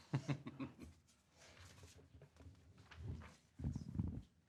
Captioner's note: laughing